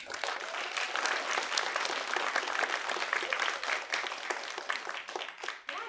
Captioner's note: applause